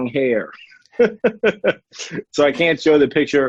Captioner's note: laughs